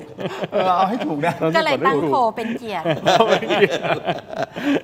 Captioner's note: laughs